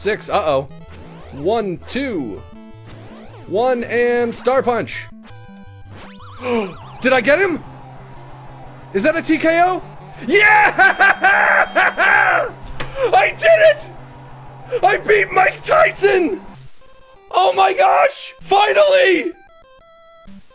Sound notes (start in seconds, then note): 0.0 normal voice; 6.4 gasps; 10.4 laughing